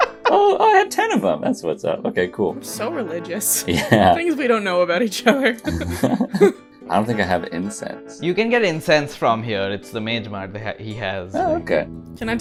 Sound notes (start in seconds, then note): 3.6 laughs; 5.3 laughs